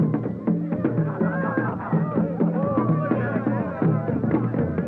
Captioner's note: crowd cheers